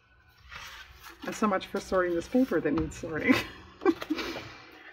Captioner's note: laughs